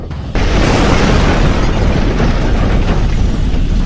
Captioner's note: spacecraft rumbling